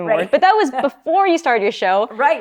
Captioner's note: laughs